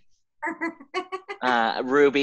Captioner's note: Amy laughing